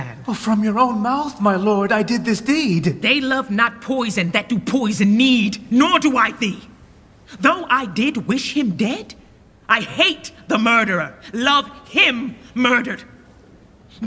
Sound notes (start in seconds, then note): none